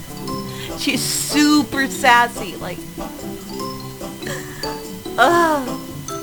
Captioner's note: laughs; laughs and sighs